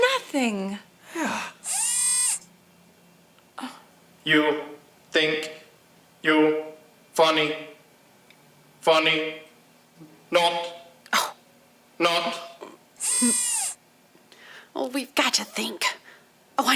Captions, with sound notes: NOTHING. (ROBOT VOICE) YOU THINK YOU'RE FUNNY? FUNNY NOT, NOT. OH, WE'VE GOT TO THINK.